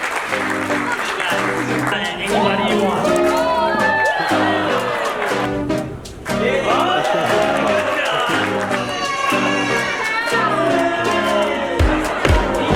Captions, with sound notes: (Upbeat Music) Nice. Throw it to anyone you want. (audience cheering) Good job. (upbeat music)